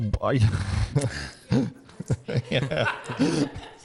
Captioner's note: laughs